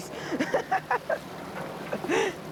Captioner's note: laughs